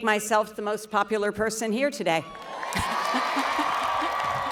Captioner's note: applause